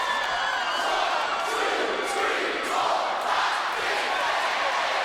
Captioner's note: audience cheering